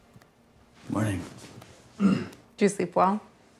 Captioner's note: clears throat